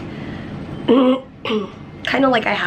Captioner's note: clears throat